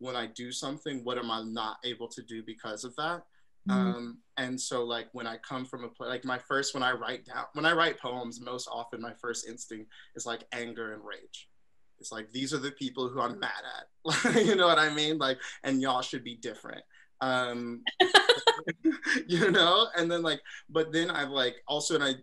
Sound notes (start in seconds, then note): 18.0 laughter